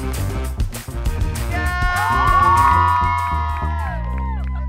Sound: students cheer

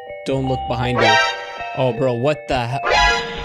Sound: creepy music; electronic scratch

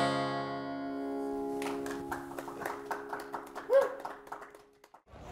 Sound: audience applauds

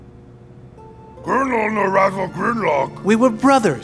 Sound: speaking in foreign language

